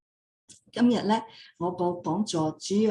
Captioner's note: non-english speech